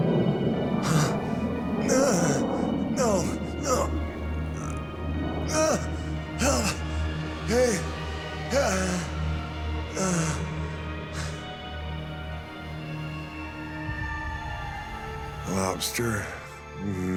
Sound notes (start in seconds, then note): 0.0 plane engine humming; 5.4 grunts; 8.1 groaning